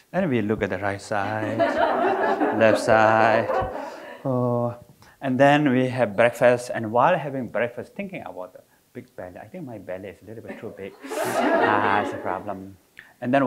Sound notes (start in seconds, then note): 3.6 audience laughing